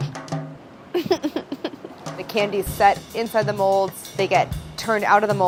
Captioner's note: laughs